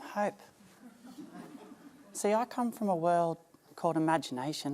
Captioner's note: smatter of laughter